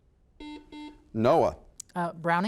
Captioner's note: buzzer